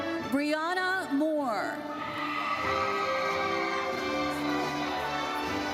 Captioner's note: audience cheers